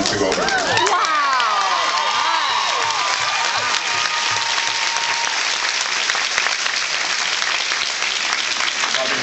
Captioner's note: cheers